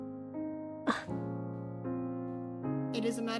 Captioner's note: scoff